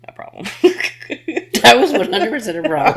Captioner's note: laughing